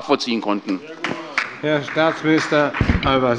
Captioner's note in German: Beifall bei Abgeordneten der SPD